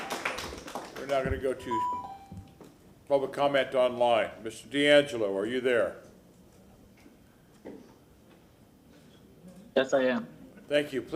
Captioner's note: applause